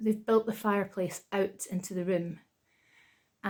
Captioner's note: none